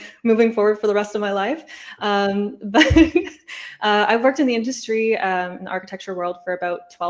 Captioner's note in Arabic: ضحك